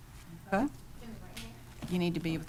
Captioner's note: speaking quietly